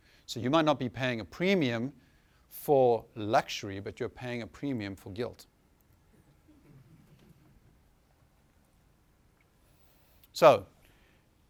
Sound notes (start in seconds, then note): 6.3 chuckling